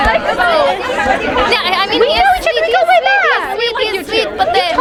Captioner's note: people chattering